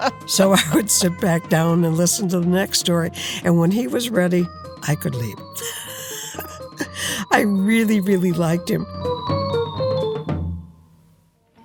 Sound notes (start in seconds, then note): 5.5 laughing; 8.7 dramatic exciting music